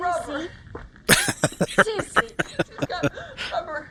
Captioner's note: laughing